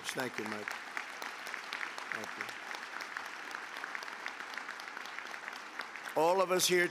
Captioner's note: applause